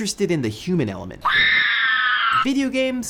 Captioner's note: screaming